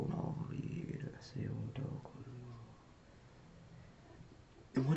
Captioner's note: speaking in foreign language